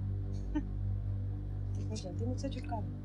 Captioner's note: Laughs